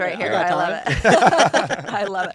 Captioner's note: laughter